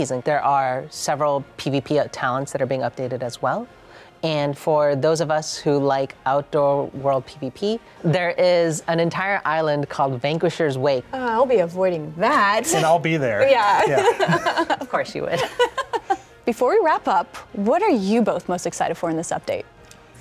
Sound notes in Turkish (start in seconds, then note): 13.8 güler